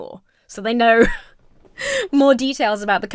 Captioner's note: laughs